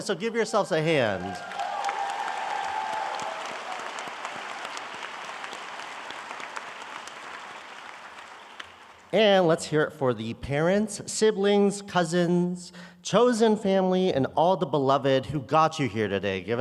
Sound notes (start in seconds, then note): 1.0 audience applauds